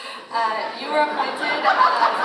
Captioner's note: audience laughs